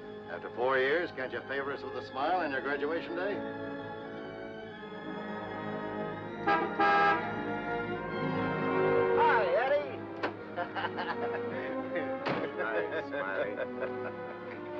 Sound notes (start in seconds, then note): 5.1 sentimental music; 6.3 horn honks; 10.4 driver laughs; 12.2 car door closes